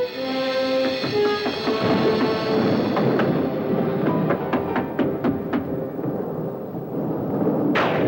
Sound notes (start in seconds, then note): 1.0 thunder; 3.9 knocking